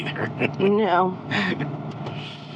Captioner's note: chuckling